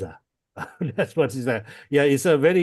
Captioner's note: laughs